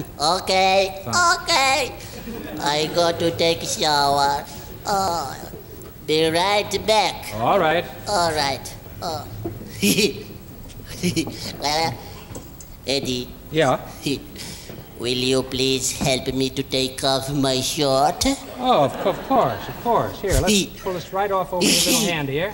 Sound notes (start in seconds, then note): 10.8 giggles